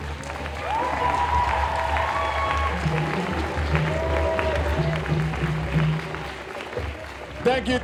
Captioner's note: cheers and applause